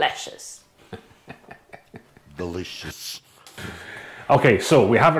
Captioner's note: laughing